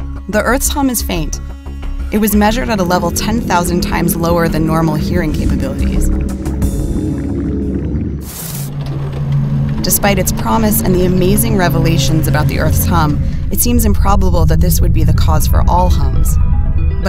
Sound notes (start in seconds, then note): 7.3 static crackling